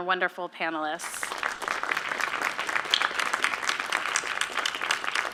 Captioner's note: applause